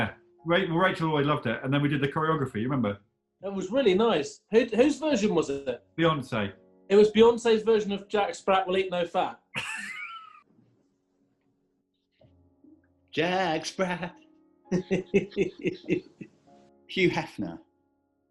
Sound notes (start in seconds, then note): 9.6 sniggering; 14.7 chuckling